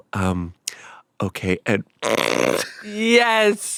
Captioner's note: snorts